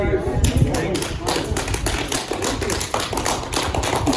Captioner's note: clapping